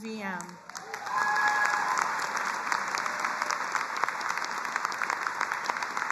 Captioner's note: audience applauding and cheering